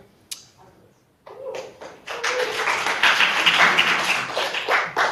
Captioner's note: audience applauding